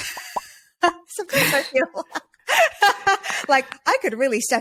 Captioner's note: laughing; laughs